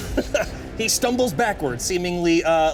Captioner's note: laughs